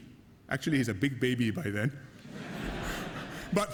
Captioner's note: laughter